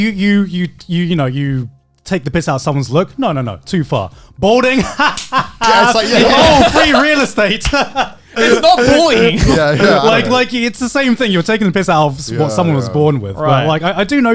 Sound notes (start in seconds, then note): 7.5 laughing loudly